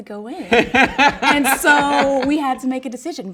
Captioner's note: laughs